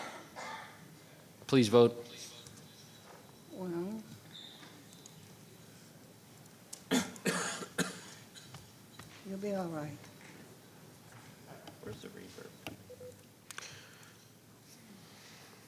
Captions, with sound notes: (coughing) Please vote. - Well. (clicking) (throat clearing) You'll be all right. - Where's the reverb? (beeping)